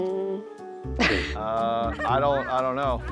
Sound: laughs

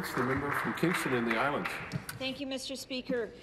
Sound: some applause

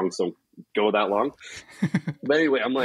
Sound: laughs

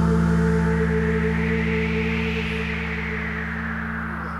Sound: wind whooshing

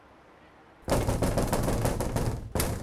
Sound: loud banging on the door

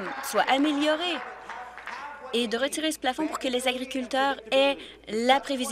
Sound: applause

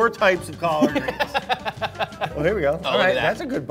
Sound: laughs

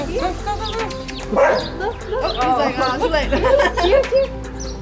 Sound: laughter

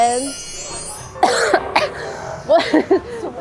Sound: cough

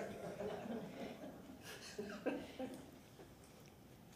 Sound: laughter

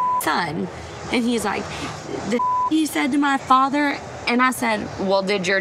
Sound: beep; beep

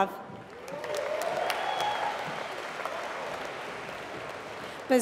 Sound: applause

